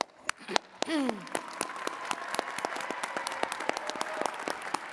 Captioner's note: attendees cheering and clapping